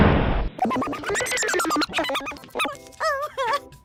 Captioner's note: strange and terrifying noises and imagery